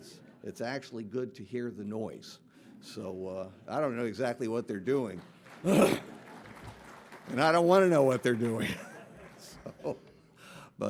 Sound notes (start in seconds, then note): 4.8 audience clapping; 5.6 clears throat; 8.5 chuckles